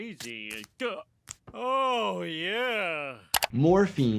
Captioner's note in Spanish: riendo; gemido